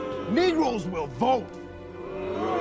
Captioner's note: booing